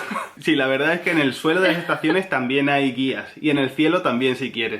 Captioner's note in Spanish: sigue riendo